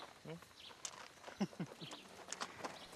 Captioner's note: chuckles